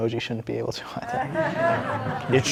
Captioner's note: laughter